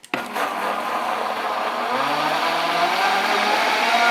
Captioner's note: blender whirs